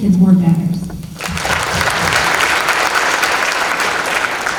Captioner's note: applause